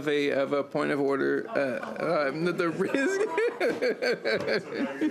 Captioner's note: laughter